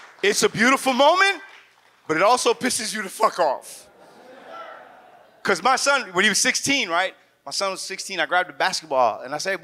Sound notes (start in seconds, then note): 0.0 audience claps; 3.8 audience laughs